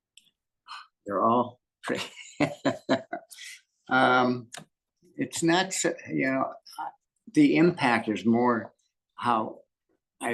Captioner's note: laughing